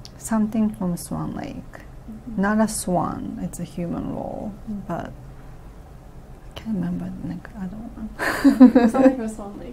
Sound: laughs

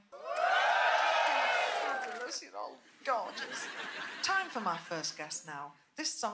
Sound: applause

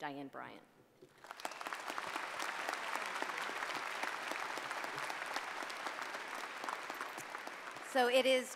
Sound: applause

